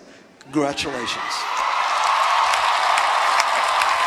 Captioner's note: applause